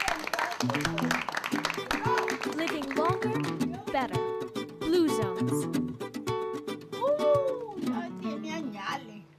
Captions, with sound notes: (acoustic guitar) Living longer, better. Blue Zones. (speaking Spanish)